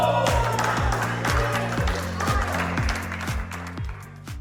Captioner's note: cheering